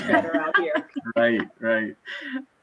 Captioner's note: laughing loudly